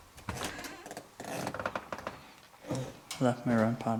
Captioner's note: creaking noises